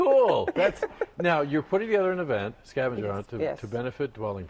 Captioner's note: laughter